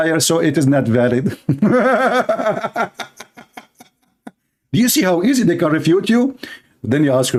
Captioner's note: laughter